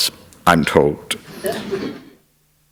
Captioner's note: laughter